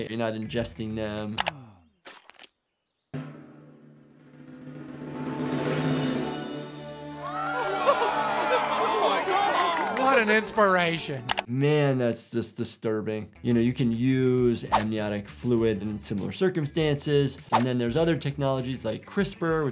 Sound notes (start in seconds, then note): 1.5 sighs; 2.0 fetus squelches; 3.2 dramatic music; 6.9 crowd cheers; 7.1 crowd applauding